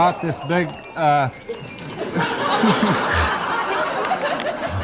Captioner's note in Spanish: multitud ríe; risas